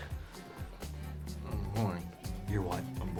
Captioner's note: whispers